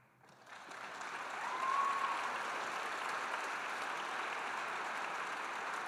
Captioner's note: audience cheering and applauding